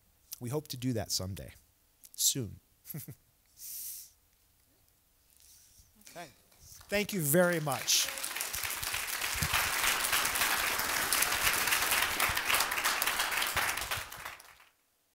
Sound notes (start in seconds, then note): 2.8 chuckles; 6.6 applause